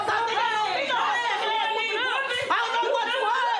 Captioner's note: shouting